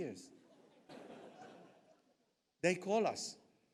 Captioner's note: audience laughs